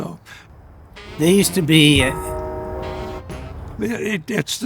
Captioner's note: bell ringing